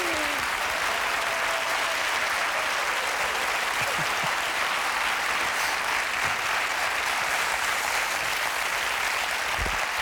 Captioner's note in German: Applaus